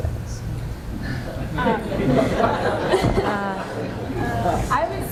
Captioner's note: laughter